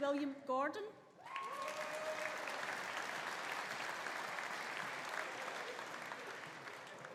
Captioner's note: audience applauding; audience cheering